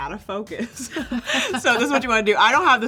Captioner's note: both chuckles